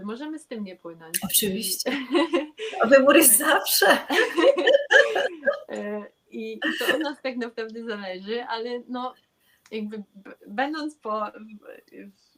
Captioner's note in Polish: śmiech